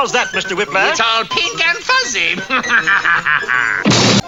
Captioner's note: chuckles